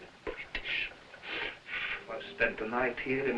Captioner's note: blowing